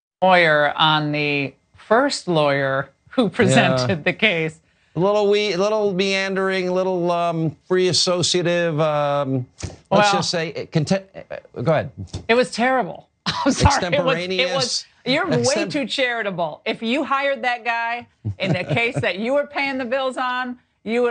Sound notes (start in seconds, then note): 13.3 laugh